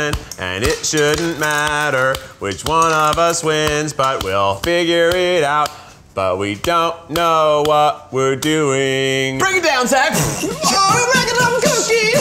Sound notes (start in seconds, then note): 10.1 beatboxing